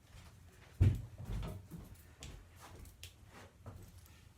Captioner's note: shuffling